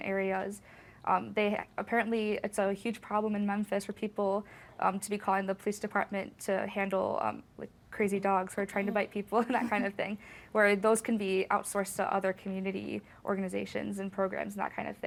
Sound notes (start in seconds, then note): 9.3 chuckles